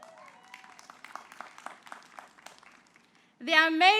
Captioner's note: applause